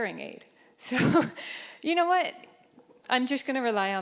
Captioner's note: chuckling